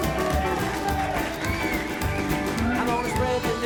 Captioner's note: applause